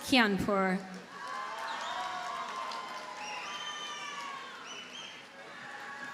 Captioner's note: audience cheers and applauds